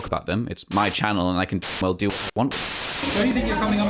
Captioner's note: static